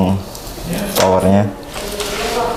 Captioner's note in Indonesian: suara plester dilepas